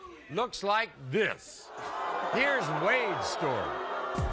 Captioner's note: audience jeering